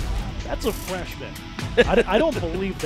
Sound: laughs

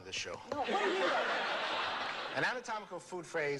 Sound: laughter

